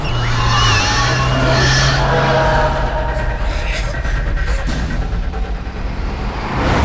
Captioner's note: demon roaring; screeching